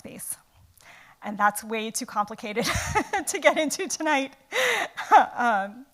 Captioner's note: laughs